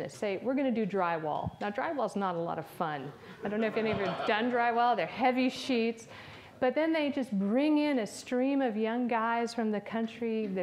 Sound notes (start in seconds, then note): 3.4 audience laughs